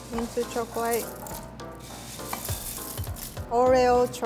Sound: mixture rustles

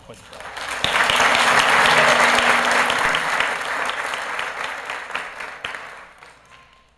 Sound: applause

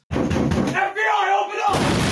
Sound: loud banging; yelling; crashing, glass shattering

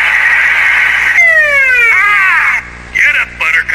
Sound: siren blaring

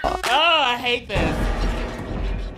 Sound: laughs; video buzzes

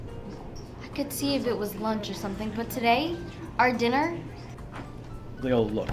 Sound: none

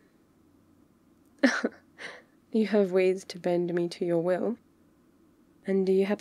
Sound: shocked laugh

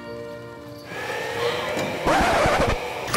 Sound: record scratches; wheelchair tires scrub

